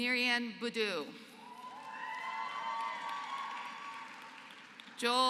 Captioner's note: applause